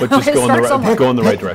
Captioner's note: laughs